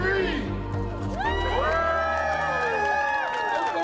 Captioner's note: cheers and Applause